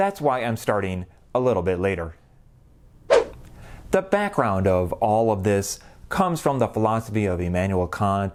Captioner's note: swoosh